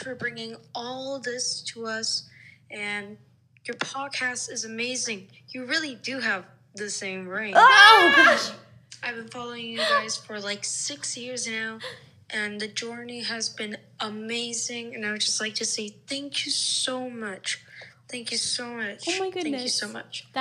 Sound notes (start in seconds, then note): 7.7 both laughing